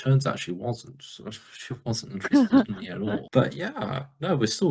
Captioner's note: laughs